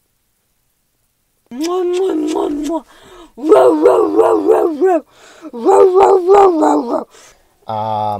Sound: kissing noises

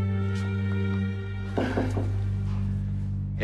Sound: knock on door

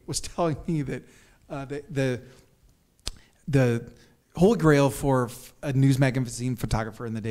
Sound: stutters

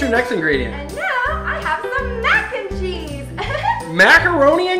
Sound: giggles

